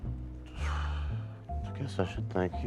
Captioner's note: exhales